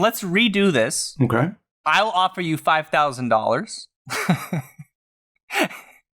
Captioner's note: laughter